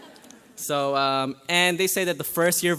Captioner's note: graduates laugh